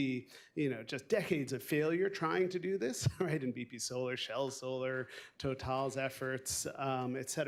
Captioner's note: laughs